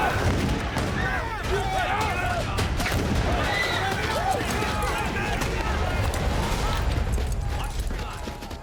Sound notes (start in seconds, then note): 0.0 gunshots